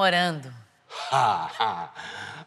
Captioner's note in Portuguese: risos